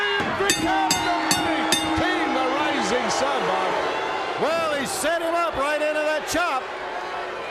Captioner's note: bell ringing